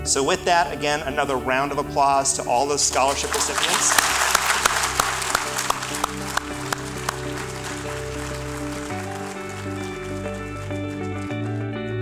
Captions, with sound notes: So with that, again, another round of applause to all the scholarship recipients. (applause) (light upbeat music)